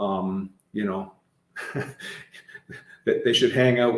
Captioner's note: chuckling